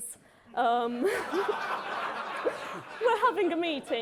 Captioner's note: audience laughing